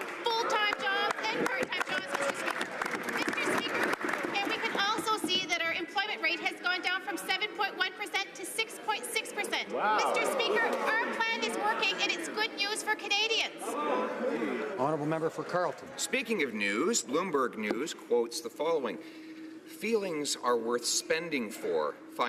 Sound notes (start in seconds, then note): 6.3 some Applause